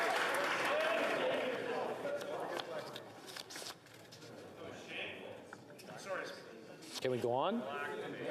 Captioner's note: applause